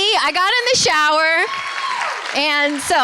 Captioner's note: cheering